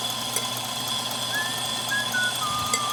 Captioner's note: whistling